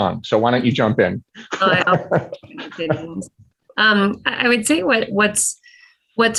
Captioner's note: laugh